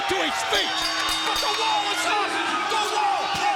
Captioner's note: bell dinging